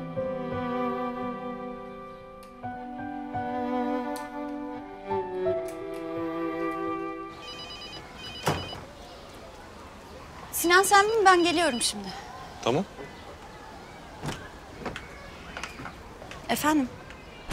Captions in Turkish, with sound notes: (Müzik - Duygusal) (Telefon zili sesi) Sinan, sen bin, ben geliyorum şimdi. Tamam. Efendim?